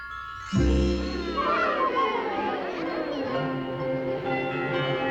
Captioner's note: crowd gasps